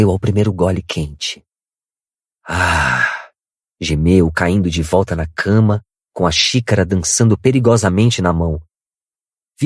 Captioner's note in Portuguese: suspirando